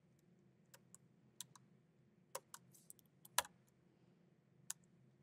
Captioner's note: keyboard clacking